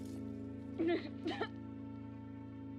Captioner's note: crying, coughing